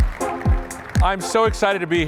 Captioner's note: applause